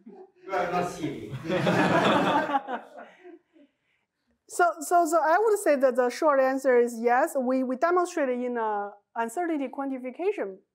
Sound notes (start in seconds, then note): 1.3 laughter